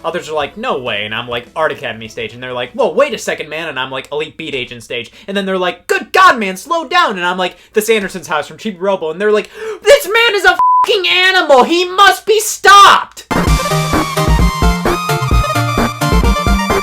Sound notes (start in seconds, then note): 10.6 beep; 13.3 upbeat music